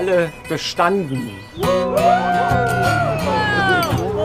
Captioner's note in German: Erleichterter Jubel